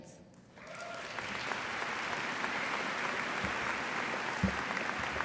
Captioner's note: applause